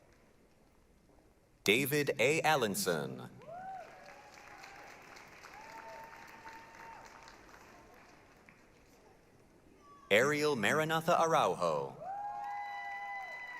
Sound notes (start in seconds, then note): 3.4 applause, cheering